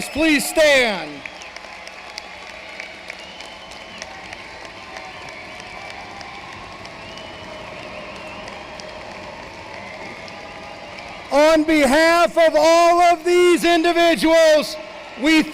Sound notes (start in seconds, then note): 0.0 applause